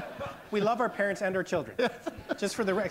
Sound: laughter

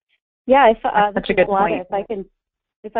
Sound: voiceover

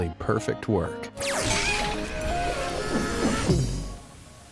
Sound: air whooshing

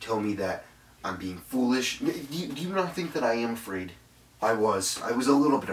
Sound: stammers

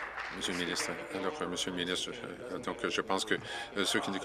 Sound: applause

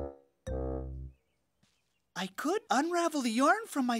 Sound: blowing

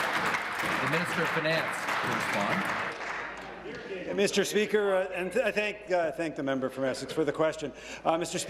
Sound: applause

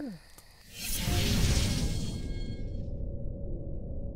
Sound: whooshing

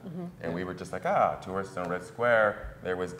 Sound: none

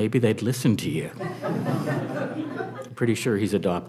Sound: audience laughing

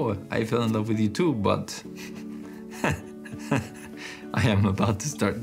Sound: laughs

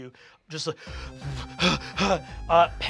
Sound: hyperventilates

